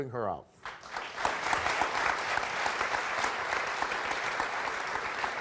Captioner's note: audience applauds